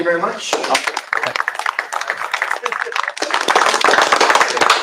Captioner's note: applause